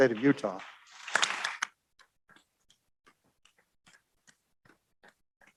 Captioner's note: audience applauds